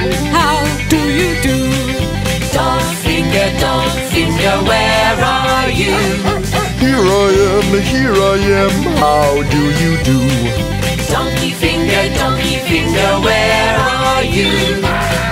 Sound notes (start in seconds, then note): 5.8 dog barking; 14.2 donkey braying